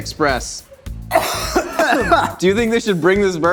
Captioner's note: both coughing